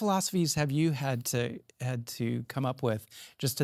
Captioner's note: none